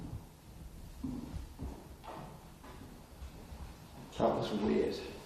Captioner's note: footsteps echo faintly